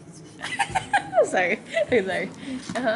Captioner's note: chuckles